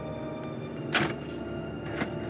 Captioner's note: door shuts